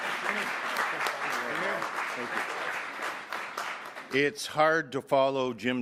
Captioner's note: applause